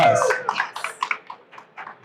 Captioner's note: crowd cheers